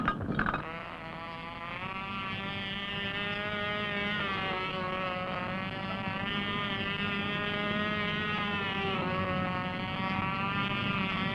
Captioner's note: sound of engine noise of model airplane taking off and in flight